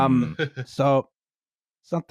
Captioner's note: chuckles